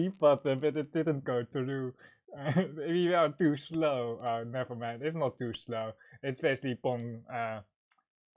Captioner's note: sarcastic